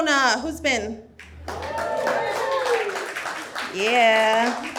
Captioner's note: audience whoops and applauds